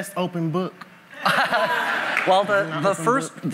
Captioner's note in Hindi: हँसी